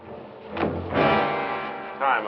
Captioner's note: thud